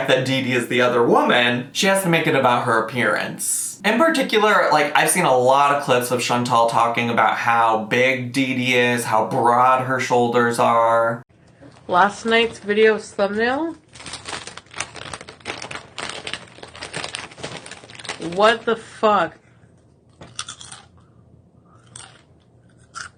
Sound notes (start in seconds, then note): 13.8 chip bag crackling; 20.2 chips crunching